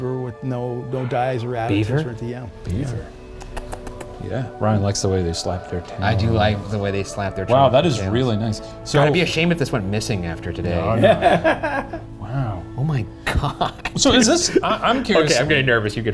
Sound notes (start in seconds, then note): 3.3 tongue clucking; 10.8 laughing; 13.4 laughing